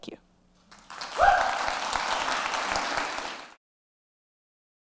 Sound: cheers and applause

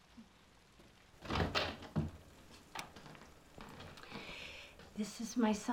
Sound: door opens

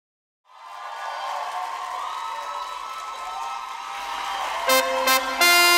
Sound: Gritos y aplausos

